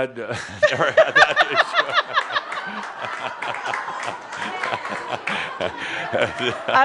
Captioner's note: lots of laughter